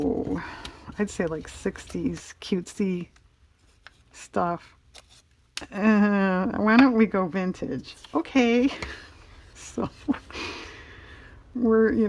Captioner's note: laughs